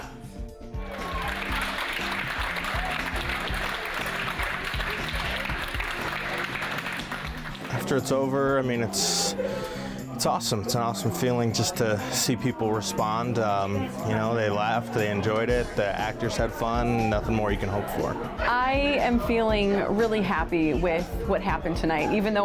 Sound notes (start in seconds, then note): 0.8 audience applauding